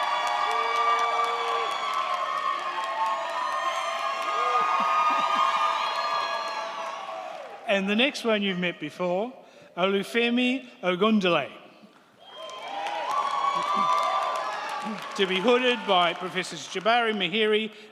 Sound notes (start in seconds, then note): 12.2 crowd cheering